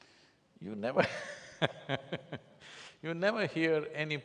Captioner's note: laughs